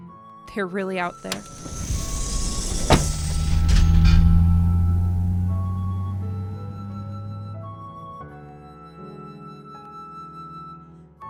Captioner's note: SFX: systems begin to boot